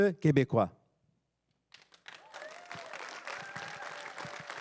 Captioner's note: everyone cheering and applauding